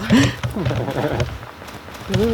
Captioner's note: laughing